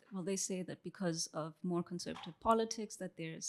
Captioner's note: none